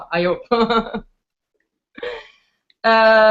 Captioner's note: laughs